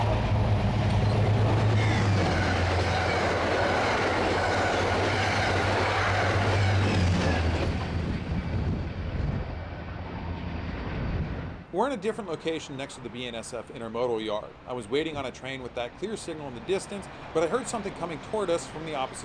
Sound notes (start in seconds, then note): 0.0 wind howling; 1.9 wind howling